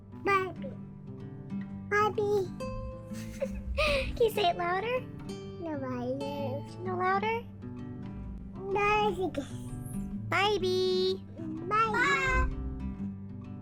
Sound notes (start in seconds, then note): 3.0 giggle; 8.7 babbling